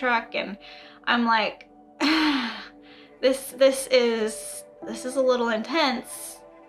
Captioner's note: sighs